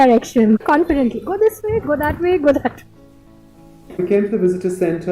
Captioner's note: laugh